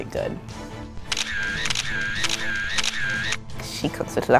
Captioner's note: camera snapping